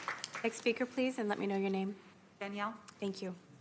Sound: applause

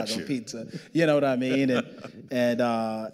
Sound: chuckling

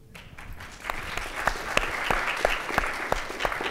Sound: audience applauds

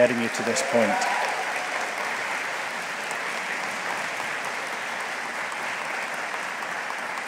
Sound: audience cheering; audience applauding

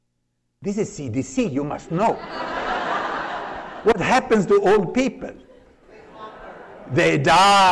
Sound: laughter

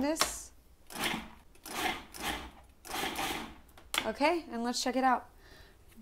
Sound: food processor whirs

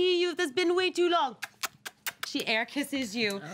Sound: kiss noises

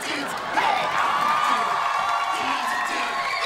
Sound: cheering

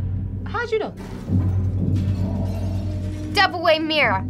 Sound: mirror shattering

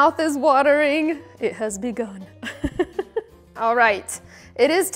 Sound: laughs

